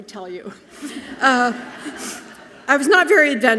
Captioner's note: audience laughing softly